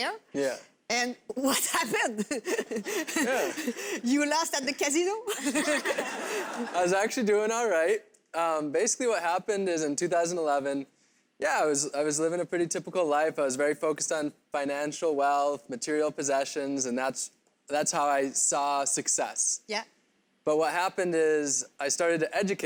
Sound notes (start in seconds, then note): 1.5 laughs; 5.3 crowd laughs